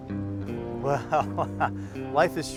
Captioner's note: laughing